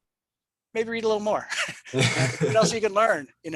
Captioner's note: laughs